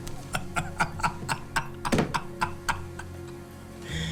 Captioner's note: Lamont laughs